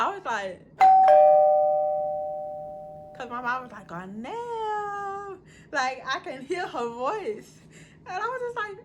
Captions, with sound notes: I was like (DINGDONG).... Cause my mom was like Aurnellllllll like I can hear her voice and i was like...